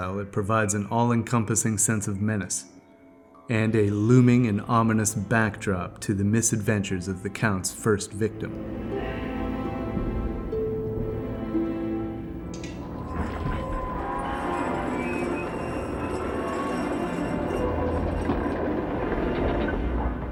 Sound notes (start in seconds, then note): 9.2 somber music; 14.2 doors creaking